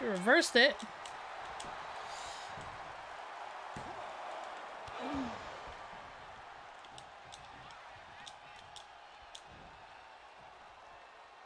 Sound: applause

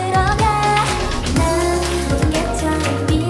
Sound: clapping

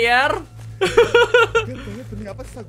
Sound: evil laugh

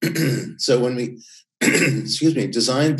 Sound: coughs

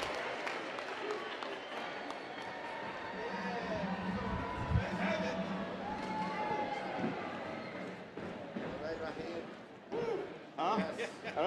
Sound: applause

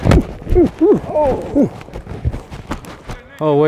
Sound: grunting

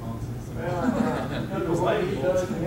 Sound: students giggling

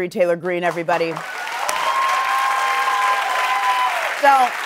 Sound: applause

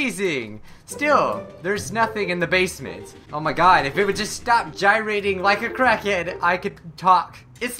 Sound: cracking

